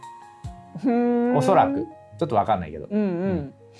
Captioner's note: laughs